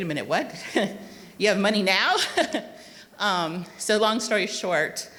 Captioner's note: chuckles